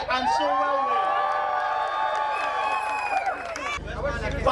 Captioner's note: crowd cheering